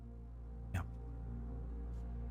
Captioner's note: whispered